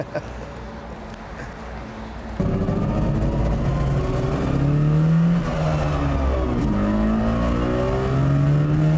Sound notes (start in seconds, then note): 2.2 Trabant engine noise; 6.0 loud, rattling hum